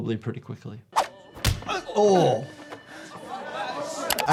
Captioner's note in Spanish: golpes de puño; jugadores charlando